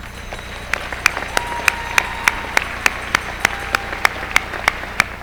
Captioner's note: applause